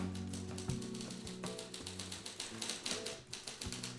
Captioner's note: typing